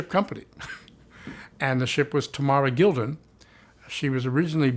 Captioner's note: chuckles